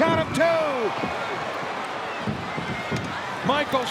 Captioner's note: crowd roars